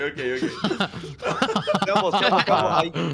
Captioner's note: laughter